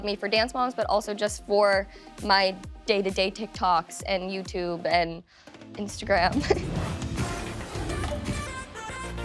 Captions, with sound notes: but also just for my day-to-day TikToks and YouTube, and Instagram. [laughs] [upbeat music playing]